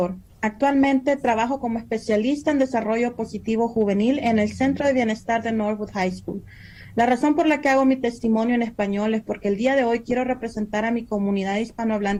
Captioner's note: speaking foreign language